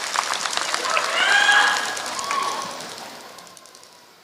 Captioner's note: applause